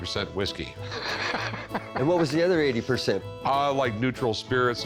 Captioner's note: laughs